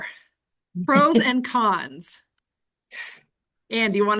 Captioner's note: laughing